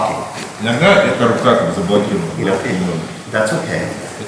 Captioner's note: speaking in a foreign language